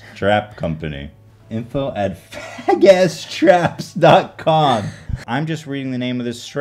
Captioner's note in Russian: хихикает